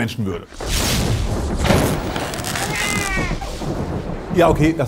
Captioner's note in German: Blitz, Donner, Babygeschrei